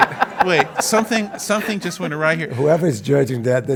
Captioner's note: laugh